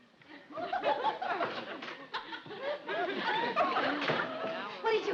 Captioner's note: audience laughs